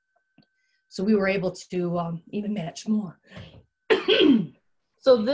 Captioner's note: coughs